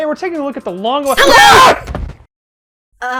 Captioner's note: screams in surprise